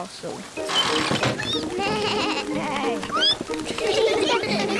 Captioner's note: all giggle